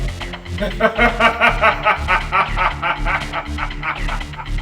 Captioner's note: medium laughing